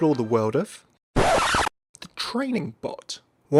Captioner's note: record scratch